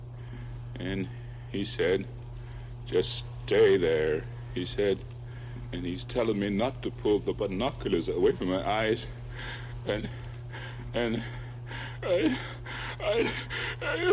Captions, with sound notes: And he said, "Just stay there," he said. And he's telling me not to pull the binoculars away from my eyes (pants).